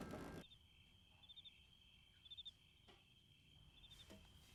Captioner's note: crickets chirping